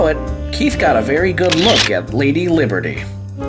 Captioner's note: camera shuttering